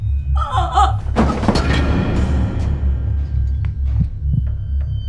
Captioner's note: mother moans; chair clatters